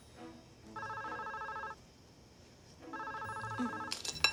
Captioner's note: phone ringing